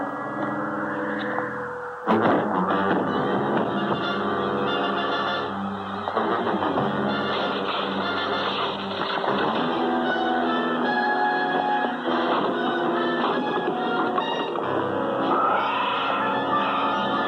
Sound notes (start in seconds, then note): 4.2 grunting